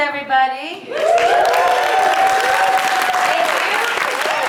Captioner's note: audience cheering